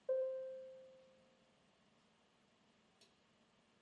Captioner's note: bell dinging